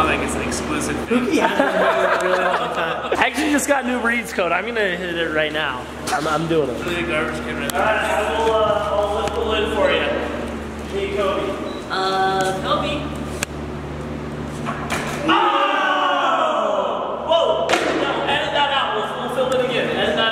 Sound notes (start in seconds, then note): 1.1 laughing; 15.7 shouting